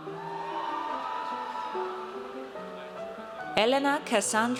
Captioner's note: audience cheers